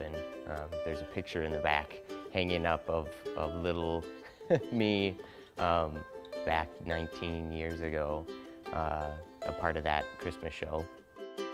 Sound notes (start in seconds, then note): 4.2 laughs